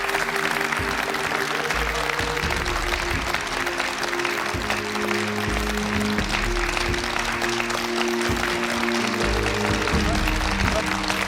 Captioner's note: applause